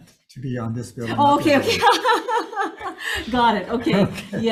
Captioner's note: laughs